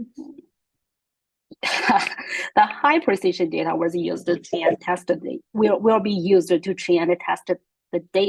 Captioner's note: laugh